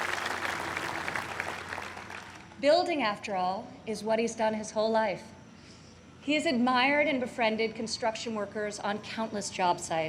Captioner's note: applause